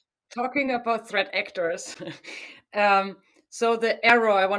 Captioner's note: chuckles